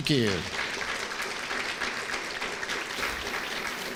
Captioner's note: applause